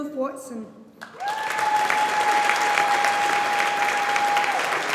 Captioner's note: audience applauding